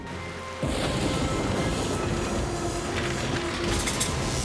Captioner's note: thunderclap; crash